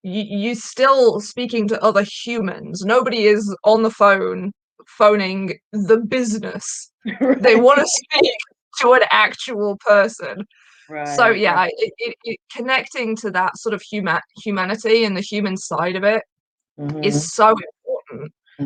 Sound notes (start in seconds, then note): 7.0 laughing